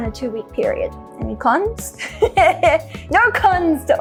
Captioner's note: laughs